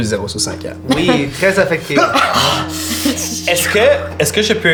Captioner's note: Hugo grunts